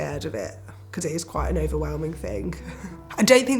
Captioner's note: chuckles